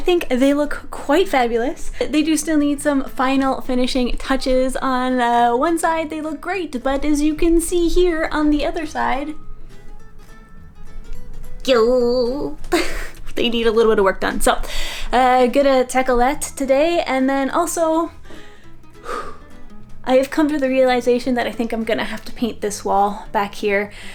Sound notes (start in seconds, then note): 11.7 sounds of embarrassed concern; 18.2 sighs